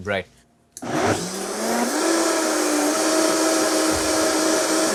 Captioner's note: blender whirring